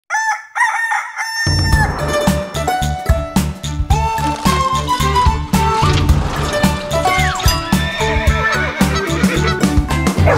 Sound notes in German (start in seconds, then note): 0.1 Hahn kräht; 3.7 Titelmelodie